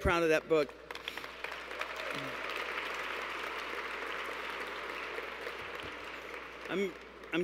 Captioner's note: applause